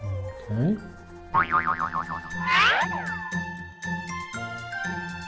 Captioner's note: cartoon bouncing